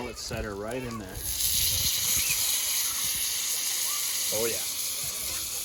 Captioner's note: fizzles